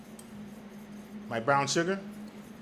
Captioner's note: whisk scrapes